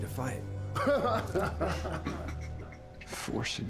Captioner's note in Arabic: يضحك